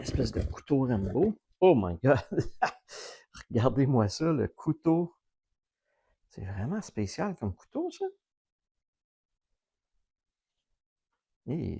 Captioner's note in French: rires